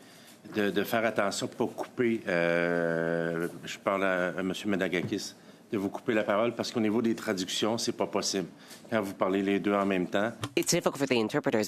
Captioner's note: speaking French